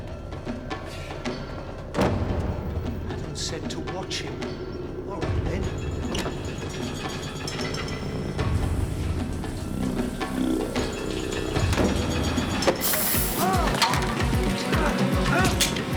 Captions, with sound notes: Adams said to watch him. All right, then. (water running) (gas sprays, Beckham screams)